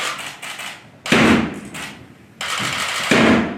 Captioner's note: knock; knock